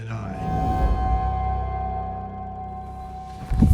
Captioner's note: woosh